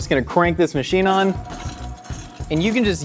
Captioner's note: meat grinder whirs